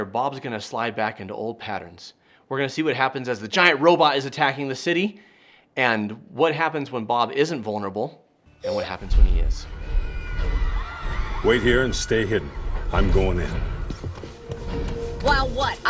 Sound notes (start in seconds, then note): 9.1 robot thumping; 9.6 people screaming; 14.4 heroic music